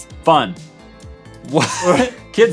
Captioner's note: laugh